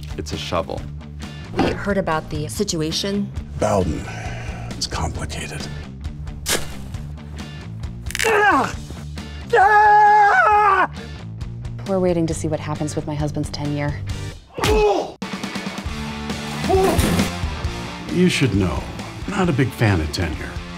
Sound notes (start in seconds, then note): 9.4 frustrated Yell